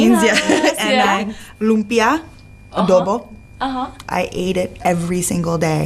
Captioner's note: speaks foreign language